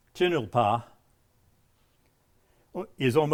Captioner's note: speaking in a foreign language